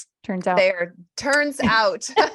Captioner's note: laughter